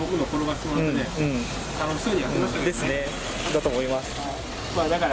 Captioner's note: laughs